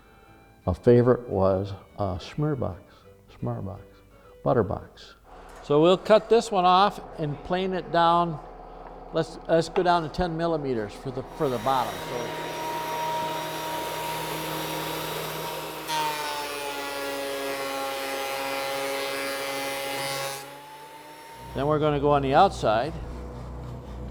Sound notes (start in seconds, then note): 12.3 whirring of the saw motor; 15.1 buzzing